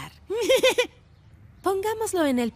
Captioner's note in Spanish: risas